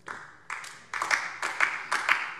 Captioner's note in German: Beifall DIE LINKE